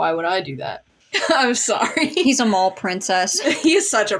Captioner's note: laughing